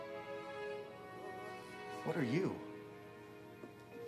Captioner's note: none